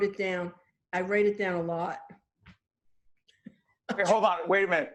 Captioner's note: laughing